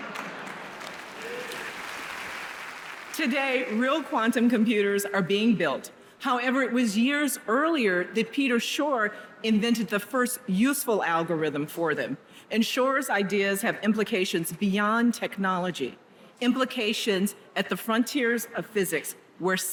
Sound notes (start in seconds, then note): 0.2 audience laughs; 1.5 audience applauds